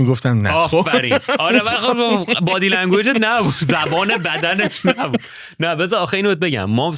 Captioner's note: Pasha repeats the last sentence in full Persian